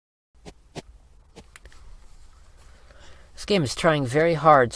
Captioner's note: shuffling sound